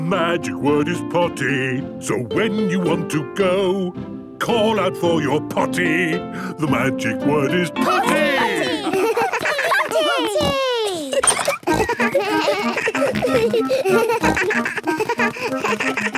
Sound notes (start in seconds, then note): 11.5 giggles; 14.1 snorts, bleating